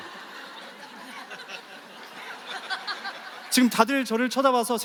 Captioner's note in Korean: 웃음